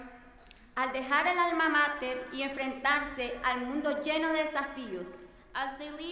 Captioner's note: speaking in foreign language